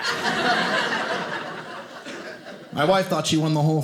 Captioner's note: audience laughing